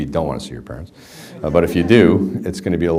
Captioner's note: background laughter